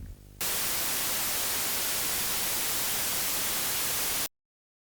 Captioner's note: static